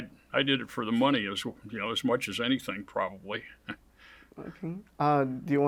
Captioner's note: chuckles